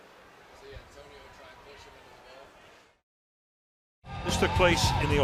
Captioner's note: pa announcement